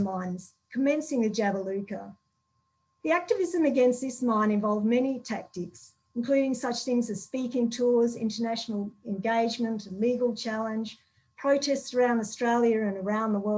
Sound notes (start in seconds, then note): none